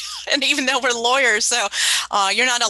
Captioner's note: laughs